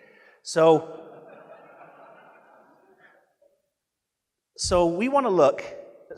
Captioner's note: audience laughing